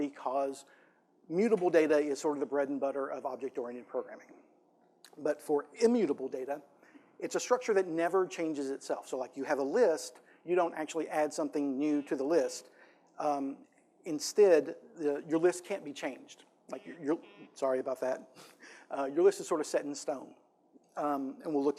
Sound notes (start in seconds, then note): 16.7 phone buzzing